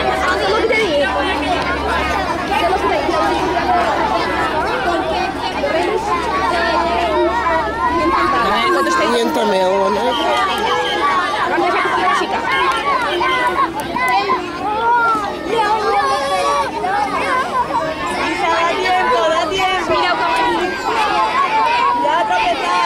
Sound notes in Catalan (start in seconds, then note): 10.0 Sona un xiulet 5 vegades